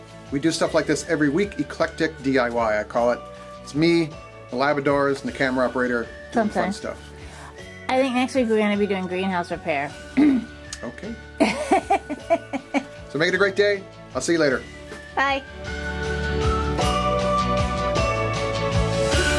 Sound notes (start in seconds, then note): 11.4 woman laughing; 16.5 gentle music